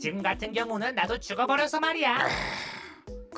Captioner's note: ⊞ sipping loudly